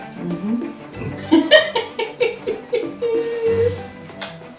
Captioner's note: cackle?